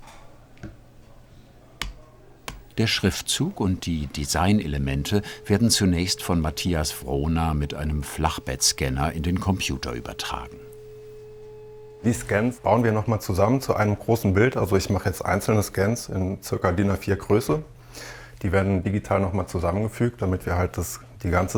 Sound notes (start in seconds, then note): 10.7 quiet whirring